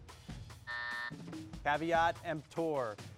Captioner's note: buzzer buzzes